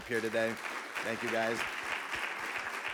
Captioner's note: audience clapping